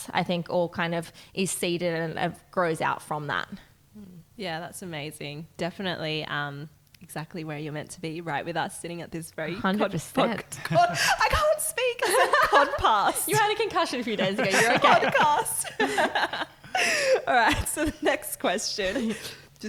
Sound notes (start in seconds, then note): 11.8 laughing